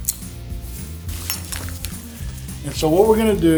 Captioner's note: buckles click; buckles clink